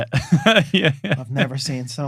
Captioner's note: laughing